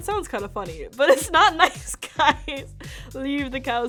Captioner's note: laughs